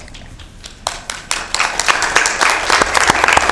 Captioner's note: applause